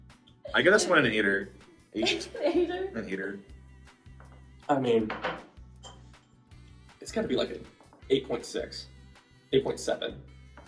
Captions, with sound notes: - I guess I'm an eighter. (student laughing) Eight. - An eighter? - An eighter. - I mean, (bowl clinking) it's gotta be like an 8.6, 8.7.